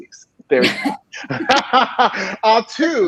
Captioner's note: laughing